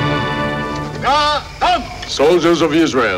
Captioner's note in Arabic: رجل يصرخ بلغة أجنبية